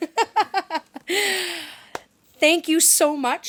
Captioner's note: laughter